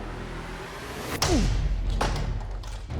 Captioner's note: grunting and whacking